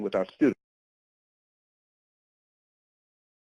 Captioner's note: audio drops